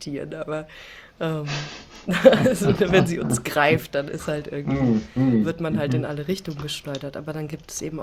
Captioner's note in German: gelächter